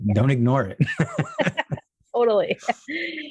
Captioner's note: laughing